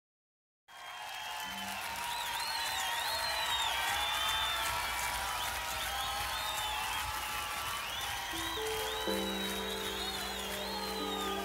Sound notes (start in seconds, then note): 0.7 audience cheering; 8.2 gentle piano music